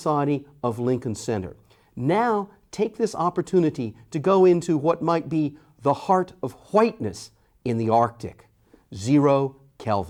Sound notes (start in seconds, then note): none